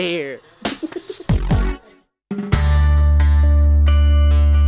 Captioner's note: laughter